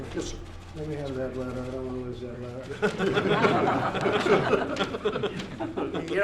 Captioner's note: laughter